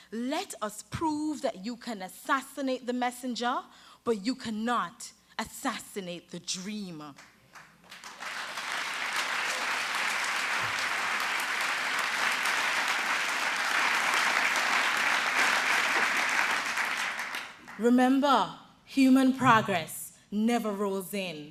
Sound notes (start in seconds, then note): 7.2 applause